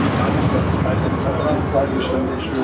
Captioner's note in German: Leises Stimmengewirr